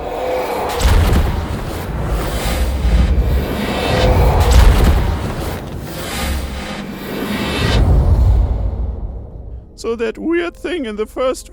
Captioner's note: ominous sounds